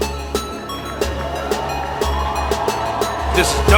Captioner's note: crowd cheering